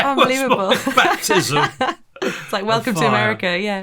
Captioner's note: laughing